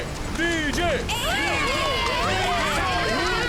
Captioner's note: cheering